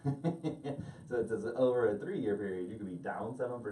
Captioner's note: laughing